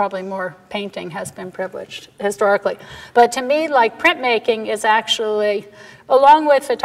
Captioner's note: none